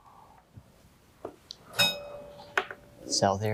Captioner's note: bell dinging